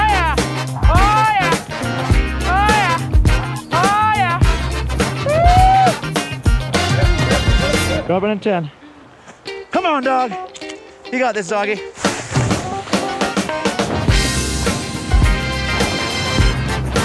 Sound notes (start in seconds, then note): 5.2 man whooping; 14.0 upbeat electronic music